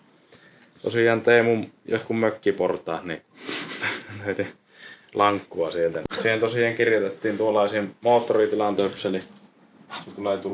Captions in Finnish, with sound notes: tosiaan Teemun jotkut mökkiportaat, niin [naurahtaa] löytin lankkua sieltä. Siihen tosiaan kirjotettiin tuollainen moottoritilan töpseli. Sitten tulee